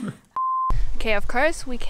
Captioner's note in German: Piepton